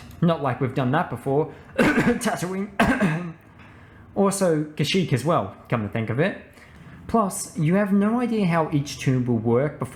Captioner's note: cough cough